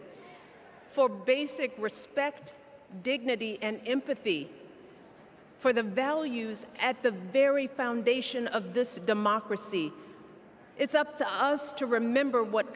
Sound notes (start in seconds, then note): none